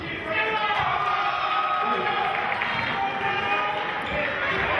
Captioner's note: cheering